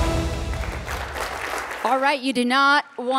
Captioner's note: bright upbeat music; audience clapping